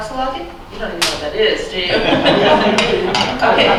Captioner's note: laughs